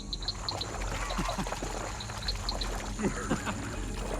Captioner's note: water splashing